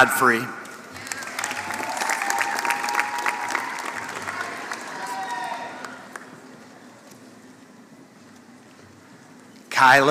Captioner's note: applause